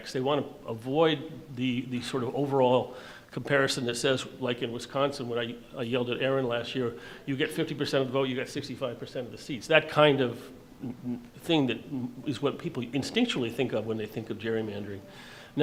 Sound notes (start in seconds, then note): none